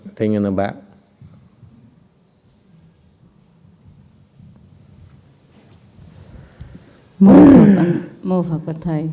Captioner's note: sigh